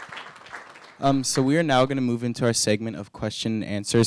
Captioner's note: applause